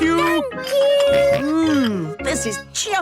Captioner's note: snorts